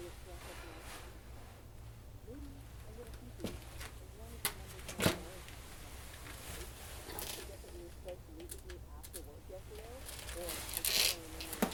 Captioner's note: Jessie continues mumbling